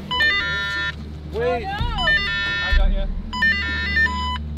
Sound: beeping

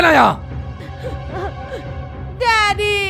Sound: crying

